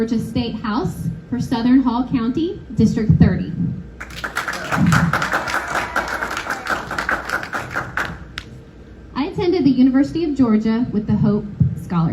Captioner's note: applause